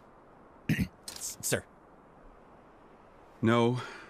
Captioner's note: cough